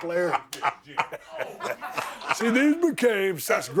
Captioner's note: both chuckling